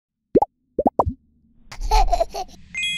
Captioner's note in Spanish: burbujas; risas de bebe